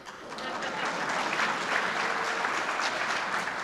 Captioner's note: applause